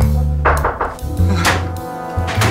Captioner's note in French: toc toc toc